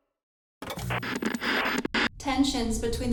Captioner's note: radio static